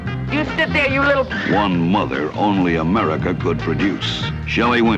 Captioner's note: tires squealing